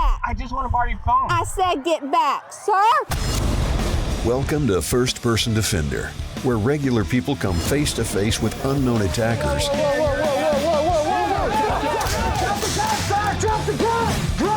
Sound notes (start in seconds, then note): 3.5 rock music; 8.4 crowd